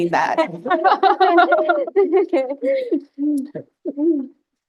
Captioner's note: panel Laughing